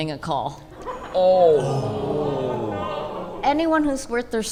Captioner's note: collective groan